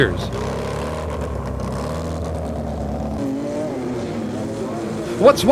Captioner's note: engines rumble